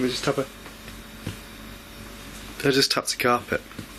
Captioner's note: light tap